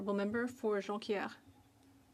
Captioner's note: speaking French